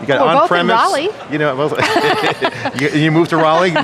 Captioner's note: laughs